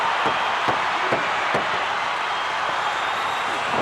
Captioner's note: hands slamming